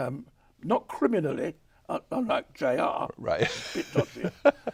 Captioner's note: chuckles